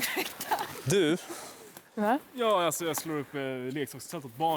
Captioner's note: chuckling